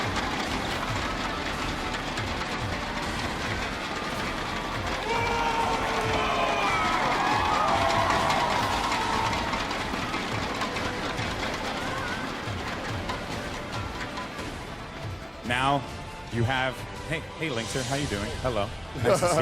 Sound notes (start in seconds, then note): 5.0 applause